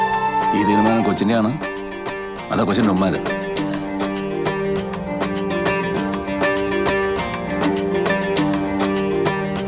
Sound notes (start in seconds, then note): 3.1 father stammers